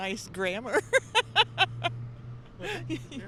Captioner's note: laughs